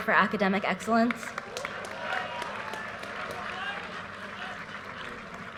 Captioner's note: audience cheers and applause